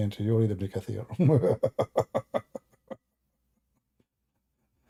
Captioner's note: Ketawa